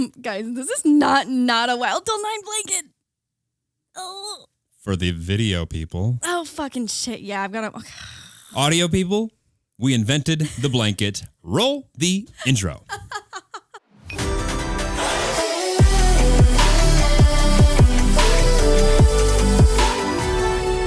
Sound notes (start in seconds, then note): 12.4 laughing; 14.1 upbeat music